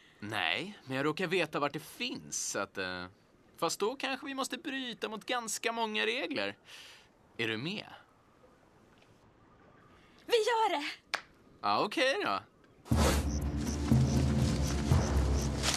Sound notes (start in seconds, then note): none